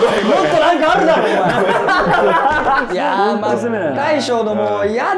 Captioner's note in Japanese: 一同：笑い